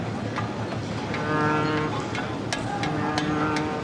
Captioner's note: ship's horn